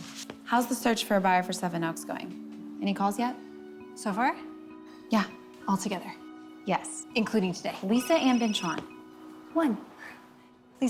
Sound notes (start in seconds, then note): 7.8 phone ringing